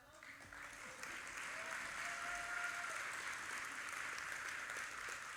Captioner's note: audience applauding